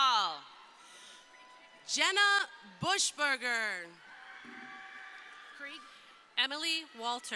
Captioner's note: crowd cheering